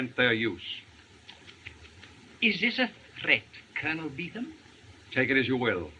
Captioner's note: tutting